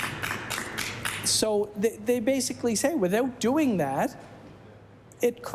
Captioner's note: applause